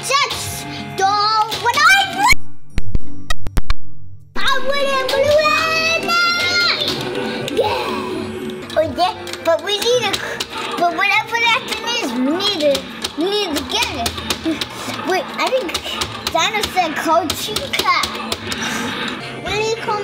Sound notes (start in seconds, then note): 2.6 audio scratching; 5.3 Chase-man shouting; 9.7 Cole-man pounding buttons